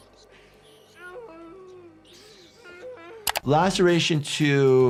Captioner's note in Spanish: Jess gimiendo